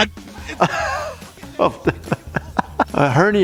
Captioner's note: laughing